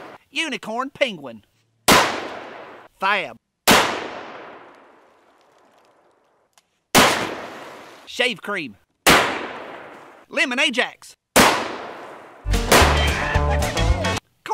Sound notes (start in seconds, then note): 0.0 gun fires; 1.5 gun fires; 6.9 gun fires; 9.0 gun fires; 11.3 gun fires; 12.8 yells